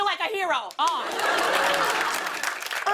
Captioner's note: laughter and applause